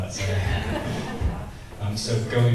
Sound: audience laughs

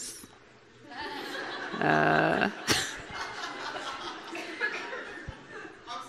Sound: audience laughing

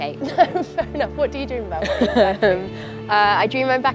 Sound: laughs

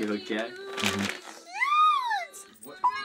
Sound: bag rustling

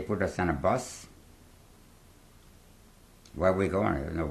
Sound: pauses for 3 seconds

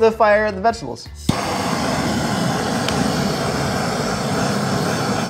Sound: flames hissing

